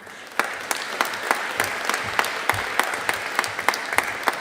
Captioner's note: audience applauding